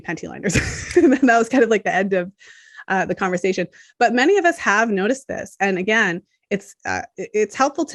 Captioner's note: chuckles